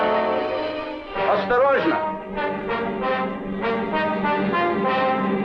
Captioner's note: soldier speaking in Russian